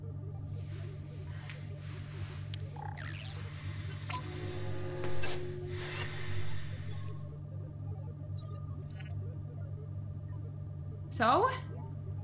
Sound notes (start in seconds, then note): 0.8 glasses activating; 2.7 digital startup sounds; 4.8 interactive noises